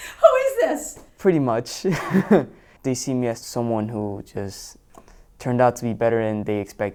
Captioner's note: laughs